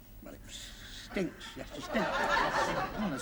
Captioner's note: laughter